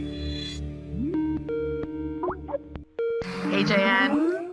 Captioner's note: Skype call playing